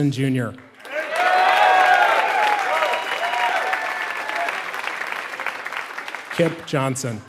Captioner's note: applause